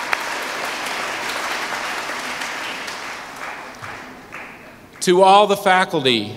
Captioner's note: applause